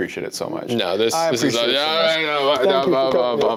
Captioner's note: overlapping chatter